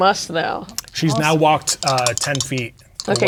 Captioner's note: dice rattling